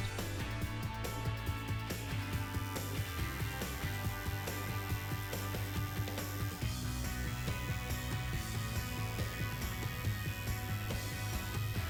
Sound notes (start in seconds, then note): 3.5 tattoo gun buzzing; 8.4 bright rhythmic music continues